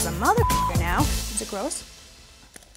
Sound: computer bleeps

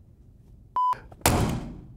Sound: beep

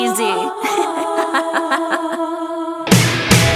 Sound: laughter

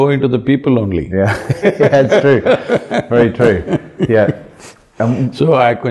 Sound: both laugh

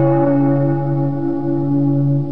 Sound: church bells

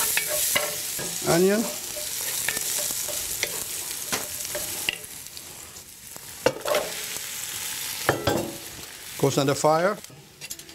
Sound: sizzling; sizzling

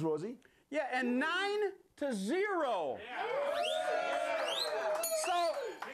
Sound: whistle; bell rings

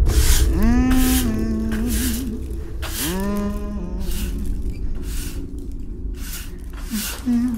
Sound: mother humming

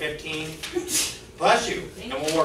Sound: student sneezes

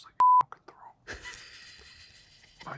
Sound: laughs

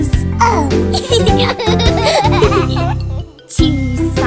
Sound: laughter; singing

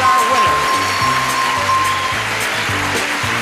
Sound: cheering

